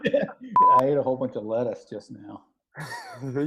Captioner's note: both laugh